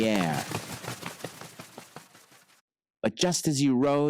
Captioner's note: wings flutter